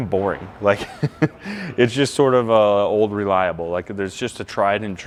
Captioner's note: chuckling